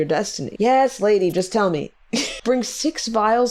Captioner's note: laughs